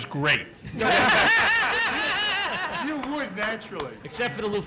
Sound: laughter

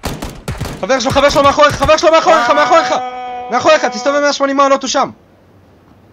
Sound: autistic screeching

